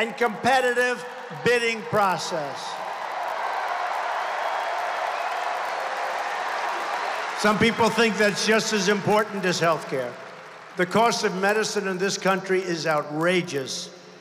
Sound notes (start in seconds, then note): 6.1 applause